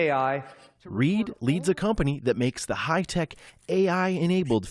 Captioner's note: voice-over